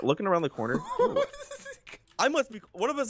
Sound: laughs

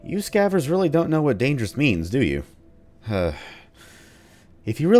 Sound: sigh

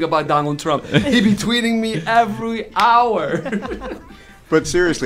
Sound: laughter

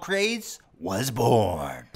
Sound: deeper voice

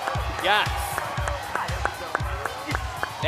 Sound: cheering

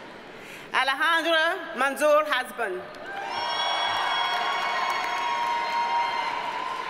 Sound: audience cheers and applauds

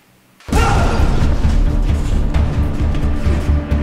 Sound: Derek groans

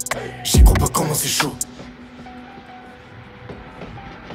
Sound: fx train

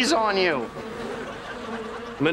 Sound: buzzing

